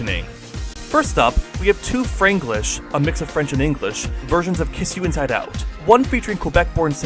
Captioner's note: a mix of French and English